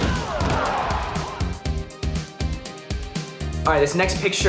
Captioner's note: crowd cheers